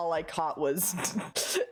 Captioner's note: snickers; sharp inhale from laughing